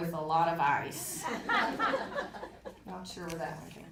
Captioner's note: audience laughing